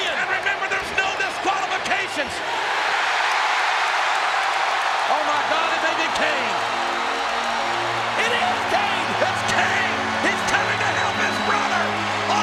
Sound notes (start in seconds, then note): 2.7 audience cheers; 6.0 ominous music